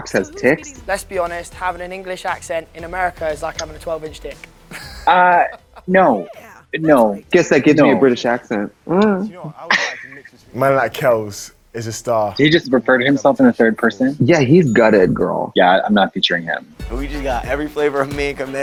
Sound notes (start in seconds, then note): 8.9 laughs; 14.6 bell dings